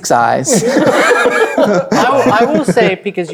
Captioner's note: players laughing